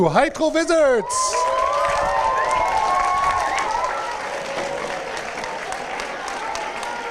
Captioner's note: applause, cheering